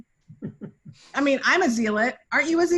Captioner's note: laughing